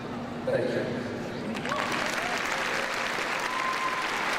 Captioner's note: crowd cheering